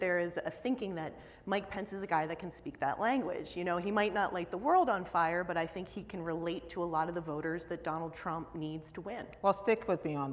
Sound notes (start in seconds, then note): none